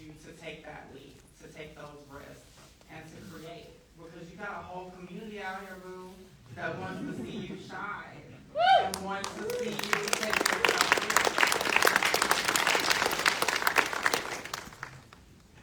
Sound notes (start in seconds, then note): 8.5 audience member whooping; 12.8 audience applauding